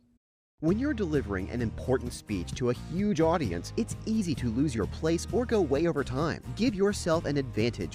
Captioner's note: voiceover